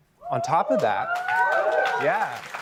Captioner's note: cheering